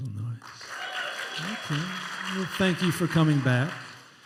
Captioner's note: applause and cheering